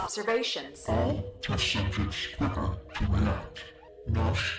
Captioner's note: distorted voice